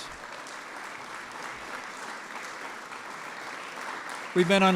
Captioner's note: applause